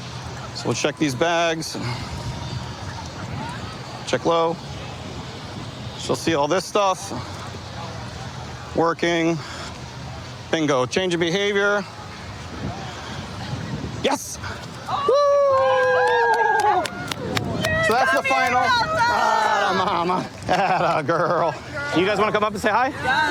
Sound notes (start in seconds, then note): 14.8 cheering